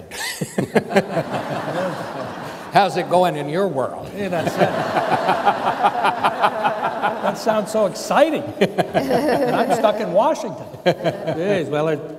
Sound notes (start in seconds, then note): 0.1 chuckling; 4.1 laughing